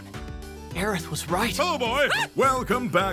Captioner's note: Cloud yelps